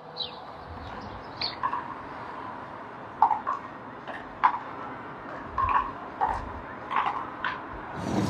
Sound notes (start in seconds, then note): 1.0 pickleball pings